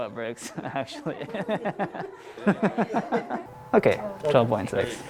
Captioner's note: laughs